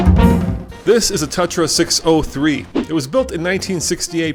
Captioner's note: voiceover